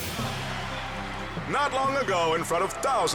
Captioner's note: crowd cheers and applauds; gentle music